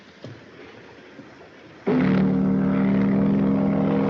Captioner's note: horn Blowing